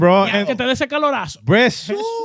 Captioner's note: speaking In Foreign Language